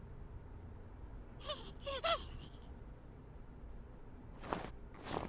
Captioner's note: scared Oh Crap Alien sounds